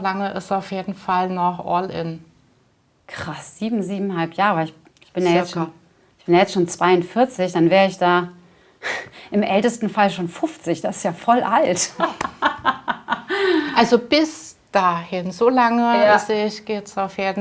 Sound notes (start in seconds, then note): 11.8 laughs